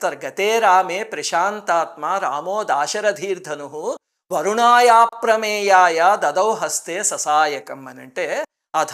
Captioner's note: reciting a verse